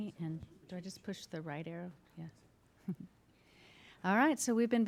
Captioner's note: laughing